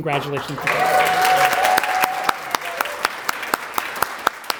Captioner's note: applause